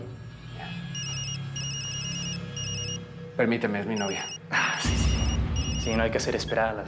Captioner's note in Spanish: suena un celular